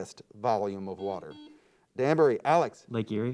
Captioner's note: buzzer beeps